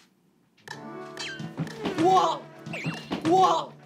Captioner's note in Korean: 호다닥